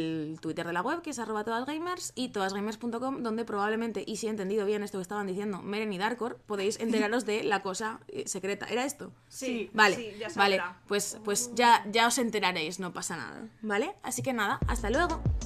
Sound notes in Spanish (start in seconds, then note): none